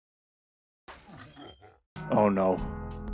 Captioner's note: evil laugh